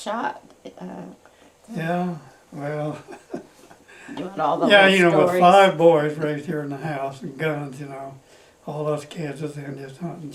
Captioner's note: laughs